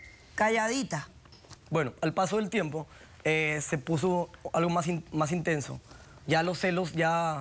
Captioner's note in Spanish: Silbido